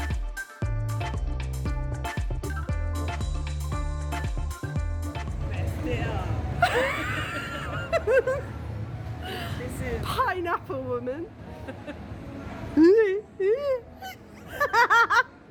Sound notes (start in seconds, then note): 6.6 laughter; 14.0 drunken laughter